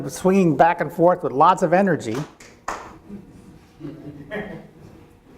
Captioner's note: several claps